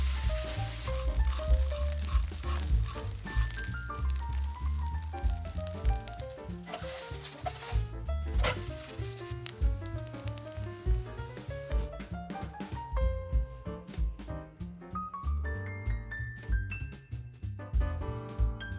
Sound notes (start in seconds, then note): 1.6 crispy sound